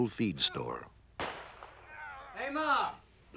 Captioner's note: gunshots